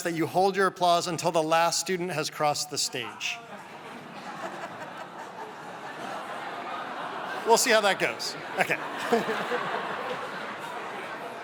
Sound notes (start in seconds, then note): 3.4 laughter